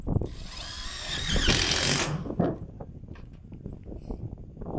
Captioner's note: drill whirring